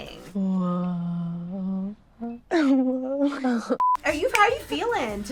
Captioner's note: laughs; beep